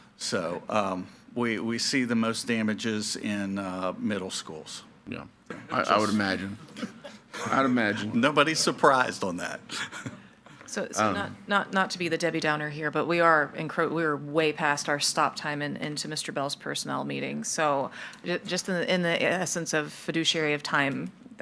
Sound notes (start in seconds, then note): 6.3 people laughing; 9.7 man in tan suit laughs